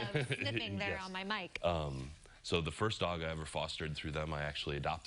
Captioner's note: laughter